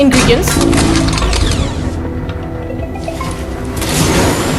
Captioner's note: gunshot sounds